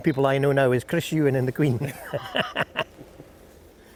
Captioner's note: chuckles